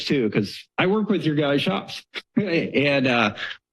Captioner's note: chuckles